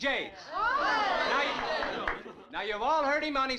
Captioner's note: crowd gasping